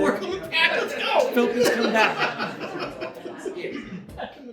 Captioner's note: audience chatter